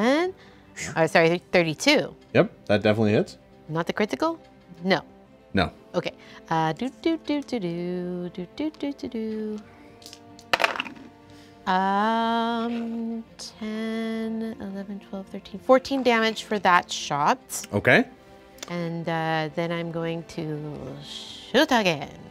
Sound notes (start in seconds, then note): 10.4 dice clatter